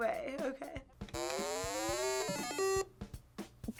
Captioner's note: starting tones chime